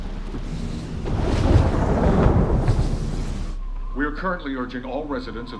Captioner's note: thunderclap